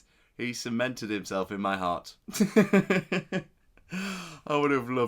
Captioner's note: laughs